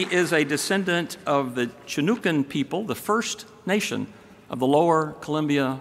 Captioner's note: applause